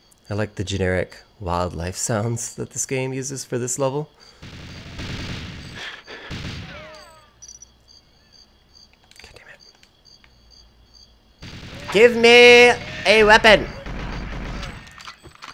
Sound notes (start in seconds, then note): 10.2 whispers